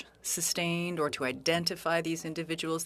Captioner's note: speaking French